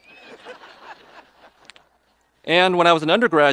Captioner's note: audience laughing